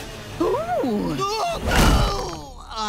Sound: yelling

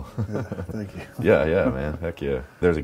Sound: chuckles

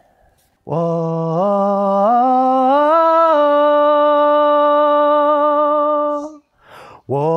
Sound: vocalizes

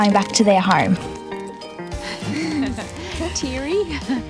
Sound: both giggle

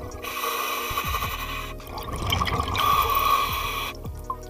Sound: breathing

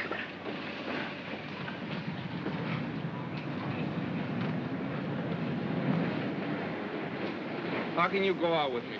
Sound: subway car rumbles

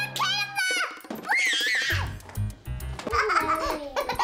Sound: screams; laughs

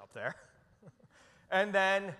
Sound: chuckles

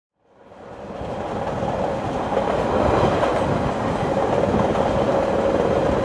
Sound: sound of train from the inside during intro

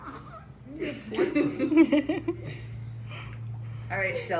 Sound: cooing

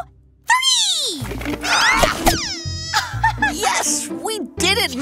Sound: soundbite of pop, squeak, thump

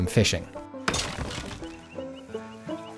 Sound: arthur splits a log

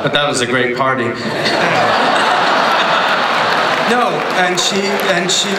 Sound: laughter

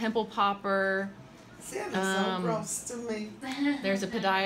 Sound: laughs

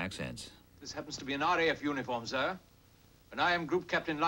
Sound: with British accent

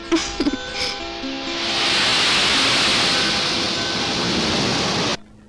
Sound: water Waves Sound

